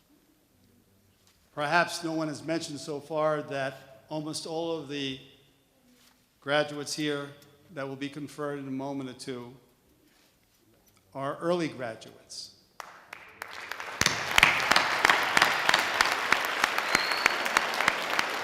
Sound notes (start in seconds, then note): 12.8 sustained audience applause